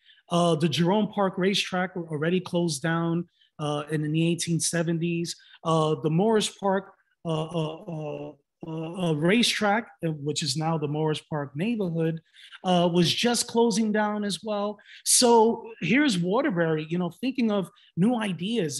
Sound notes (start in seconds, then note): none